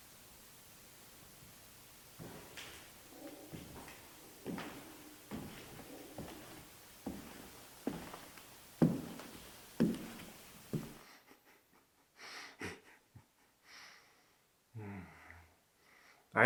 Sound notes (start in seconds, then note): 11.0 Jacob chuckling